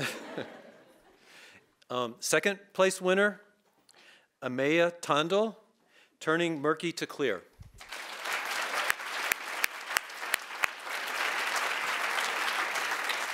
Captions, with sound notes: (audience chuckling) Second place winner, Ameya Tandel, "Turning Murky to Clear." (audience applauding)